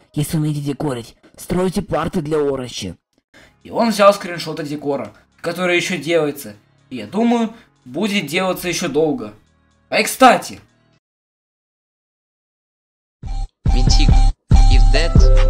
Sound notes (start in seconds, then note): 3.3 inhale